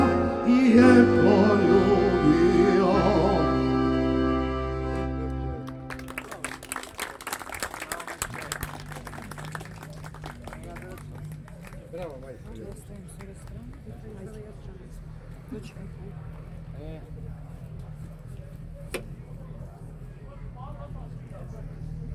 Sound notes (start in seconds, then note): 0.0 singing; 7.3 applause